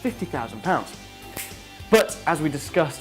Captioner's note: snaps